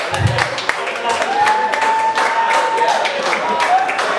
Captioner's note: applause; cheering